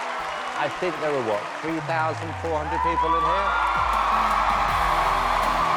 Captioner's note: cheering